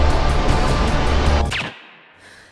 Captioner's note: gun fires; Quinn panting